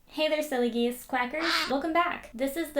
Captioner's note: quack